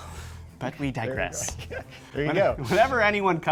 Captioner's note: laughs